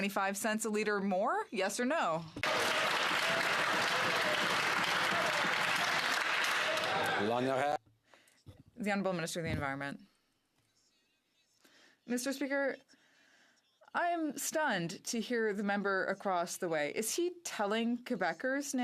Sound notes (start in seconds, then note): 7.6 some Applause